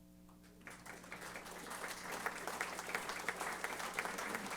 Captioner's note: applause